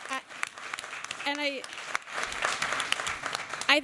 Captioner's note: applause